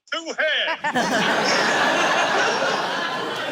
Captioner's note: laughter